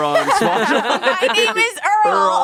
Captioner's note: everyone laughs